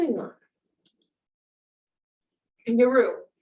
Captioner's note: mouse clicks